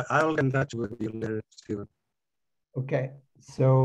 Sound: audio statics

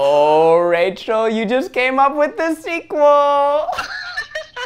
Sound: laughs

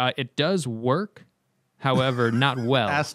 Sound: laughter

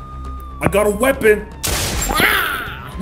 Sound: gunshot

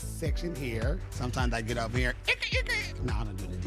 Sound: mimics records scratching

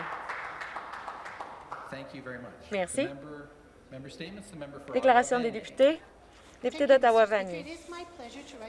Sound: some Applause

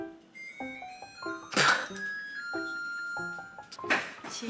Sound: suddenly the sound of a microwave♬

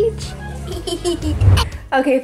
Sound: girl laughs

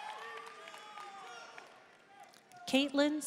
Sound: audience cheering and applauding; audience member shouting

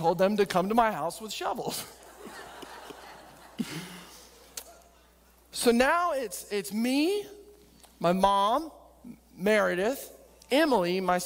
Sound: auidence laughing

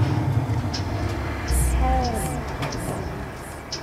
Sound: voice from pipe

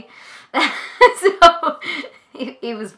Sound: laughing

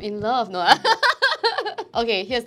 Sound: laughs

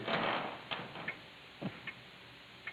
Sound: none

